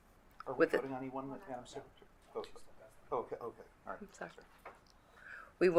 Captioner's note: commissioners speaking quietly